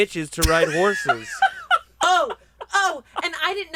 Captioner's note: laughs